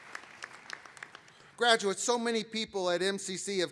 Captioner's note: applause